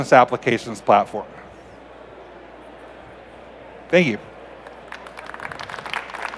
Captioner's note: applause